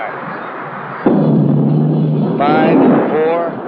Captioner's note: sound of rocket engine firing